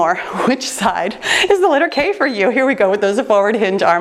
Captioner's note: timer beeps